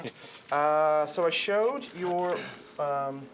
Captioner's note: laughing